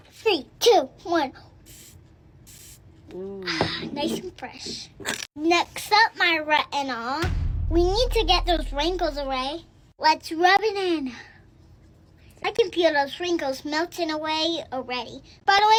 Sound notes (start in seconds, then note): 2.5 can sprays